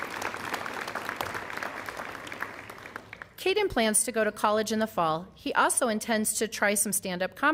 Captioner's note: applause